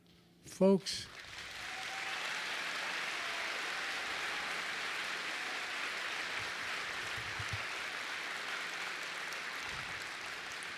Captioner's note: applause